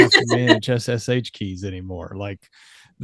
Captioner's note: laughs